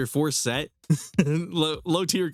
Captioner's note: laughs